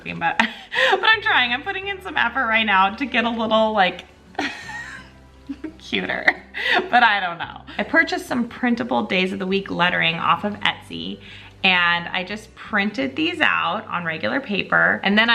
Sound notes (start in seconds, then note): 4.3 chuckling